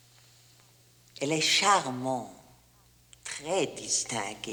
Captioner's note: speaks in French